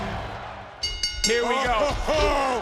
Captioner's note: bell dings